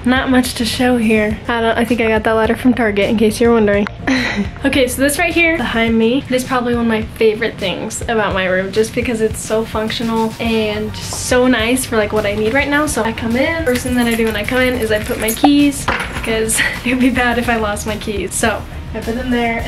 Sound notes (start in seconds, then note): 4.0 laughs